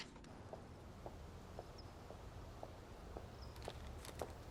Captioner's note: footsteps